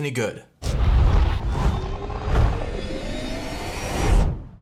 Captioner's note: intense launch sound